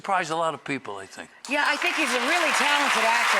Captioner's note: audience applause